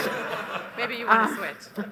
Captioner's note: laughter